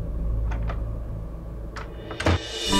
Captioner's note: Door Closes